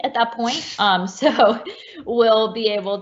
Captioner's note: laughs